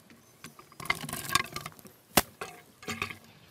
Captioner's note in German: Scheppern, Knarzen